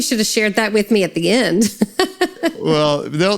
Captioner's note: laughs